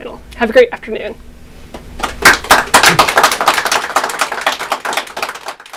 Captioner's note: applauding